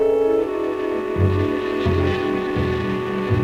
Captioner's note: buzzing